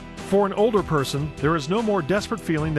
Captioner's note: voiceover